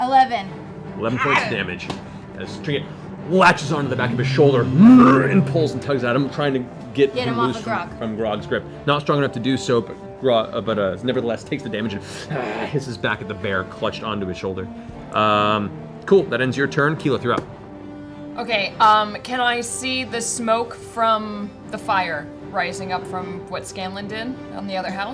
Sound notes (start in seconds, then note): 4.1 growls; 12.3 snarls